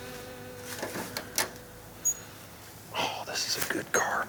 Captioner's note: engine roars